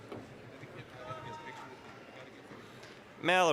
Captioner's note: applause